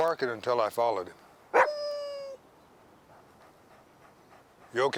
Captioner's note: Buck barks